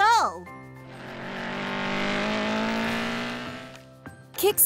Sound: motor revving

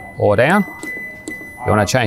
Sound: beeping

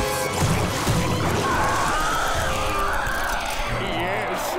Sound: screeching

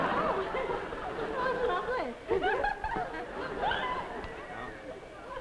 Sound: audience laughs; Gurney, over laughter; women giggle

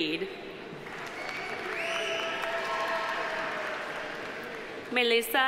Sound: audience applauding; audience cheering

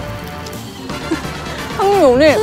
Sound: laughing

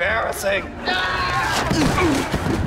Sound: screaming

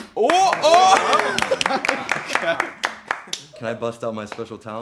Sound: guys clapping

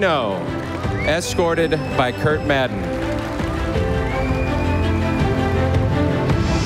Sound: audience applauding

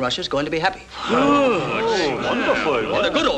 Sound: exclamations of assent

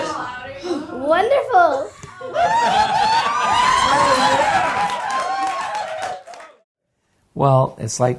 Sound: laughter

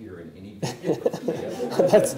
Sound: laughter

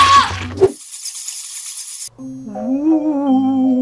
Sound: assistant screaming; bats flying; ghost moaning

